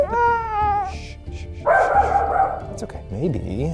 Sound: dog barks

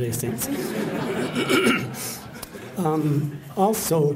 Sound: laughter

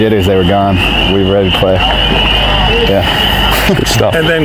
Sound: laughing

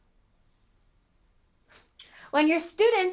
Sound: exhaling

